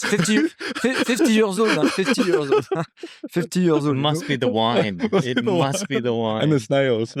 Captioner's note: laughing